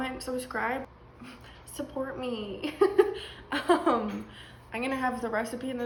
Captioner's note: laughs